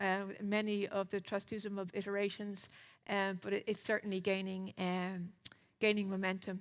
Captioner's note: lips smack